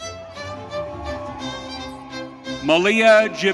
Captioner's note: audience cheering